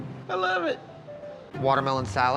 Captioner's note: says sarcastically